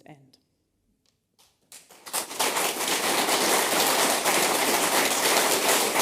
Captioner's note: applause